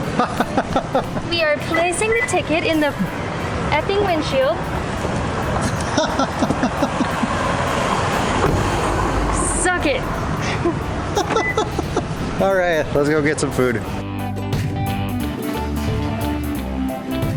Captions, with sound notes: [Laughs] We are placing the ticket in the effing windshield Suck it! [Laughs] All right let's go get some food.